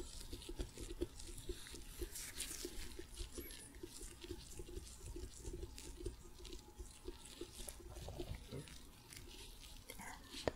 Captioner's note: tapping, sticky sounds